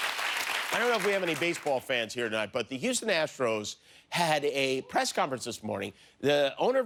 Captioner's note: cheers and applause